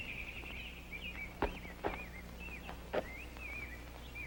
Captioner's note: birds chirping